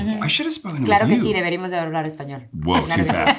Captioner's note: Eiza speaking in Spanish